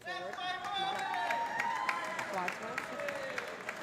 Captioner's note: cheers and applause